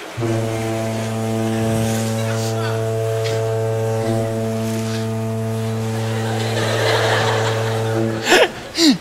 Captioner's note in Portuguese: buzina de navio